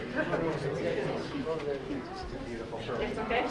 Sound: group chattering

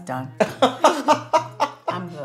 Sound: laughs

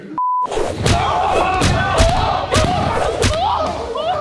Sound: beep; hitting sounds; excited yelling

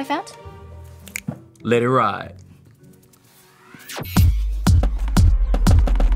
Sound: fingers snap

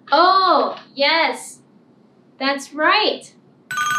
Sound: ringing bell

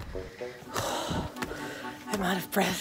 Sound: breathing heavily; upbeat music

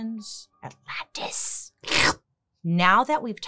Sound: slurps

